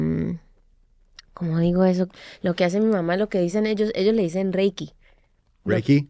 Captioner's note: speaking spanish